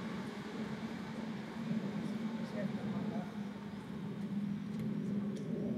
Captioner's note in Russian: неразличимые разговоры на фоне